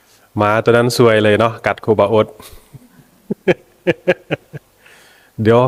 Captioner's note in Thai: เสียงหัวเราะ